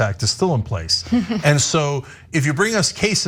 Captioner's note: laugh